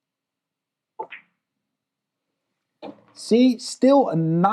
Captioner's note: ball clacks